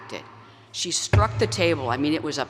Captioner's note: pounds on lectern